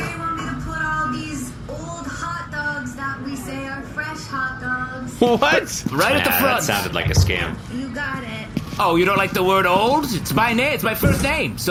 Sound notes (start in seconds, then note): 5.7 laughing